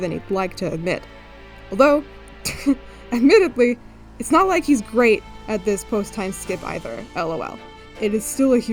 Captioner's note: chuckles